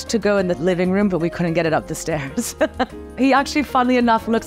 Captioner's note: laughs